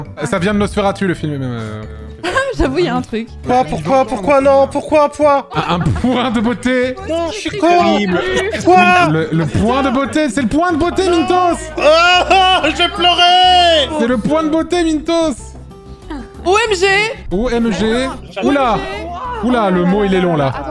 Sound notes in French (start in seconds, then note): 5.5 Rires; 10.8 gémit de désespoir